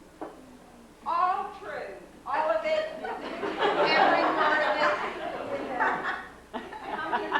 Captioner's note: laughter